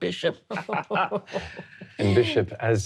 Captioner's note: laughing